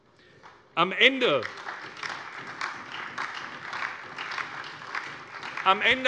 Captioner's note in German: Beifall SPD, DIE LINKE und Freie Demokraten